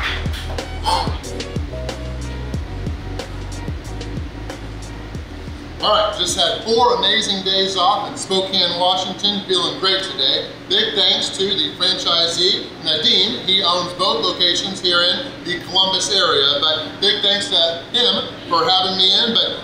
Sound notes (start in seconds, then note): 0.8 exhales